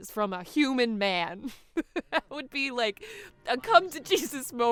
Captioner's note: laughs